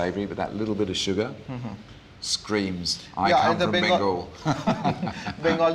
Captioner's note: laughs